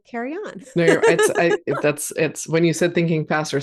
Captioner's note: laughs